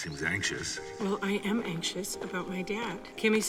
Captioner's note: voice echoing